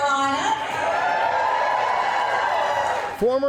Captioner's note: supporters clapping and cheering